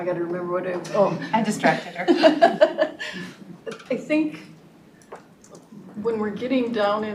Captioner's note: laughs